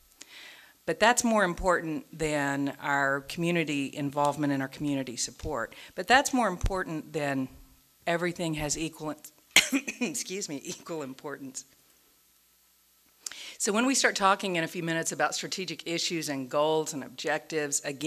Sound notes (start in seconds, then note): 9.5 coughs